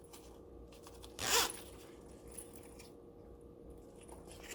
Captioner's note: zip rasping